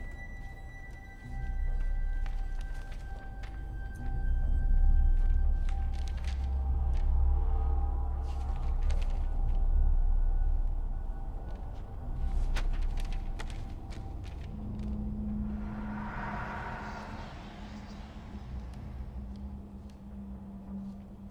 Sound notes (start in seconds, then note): 0.1 gentle ominous music; 5.8 papers rustling; 15.8 eerie music; 18.0 voices whispering